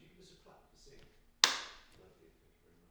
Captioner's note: claps